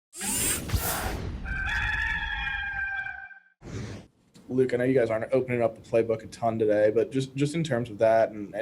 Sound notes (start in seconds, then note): 0.1 electronic whizzing; 1.4 rooster crows